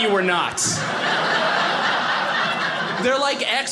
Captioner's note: audience laughing